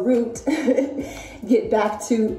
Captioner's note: chuckles